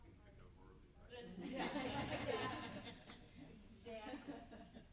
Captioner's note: group laughs